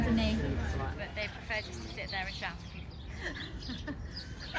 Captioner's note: laughs